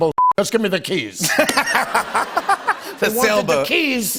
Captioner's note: laughter